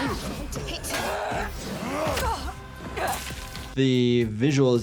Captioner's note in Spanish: Senua y el enemigo gruñendo; Senua gruñe